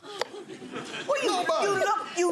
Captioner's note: audience laughing